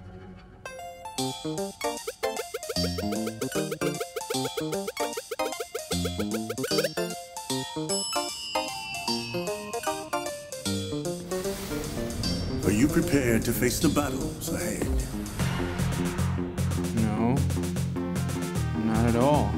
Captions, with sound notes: (whimsical music) (bell dings) (air whooshing) - Are you prepared to face the battles ahead? (courageous music) - No, not at all.